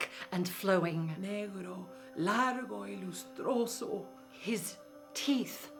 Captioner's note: speaking in foreign language